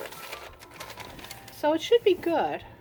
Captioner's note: more paper rustling